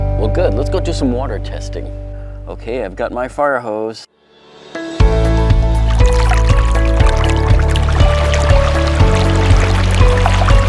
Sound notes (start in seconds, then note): 5.1 upbeat music; 5.7 water whooshing